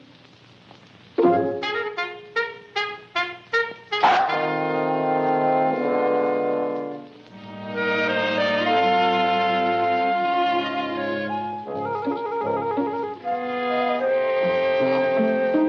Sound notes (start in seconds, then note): 4.0 Luther barks; 8.1 light hearted music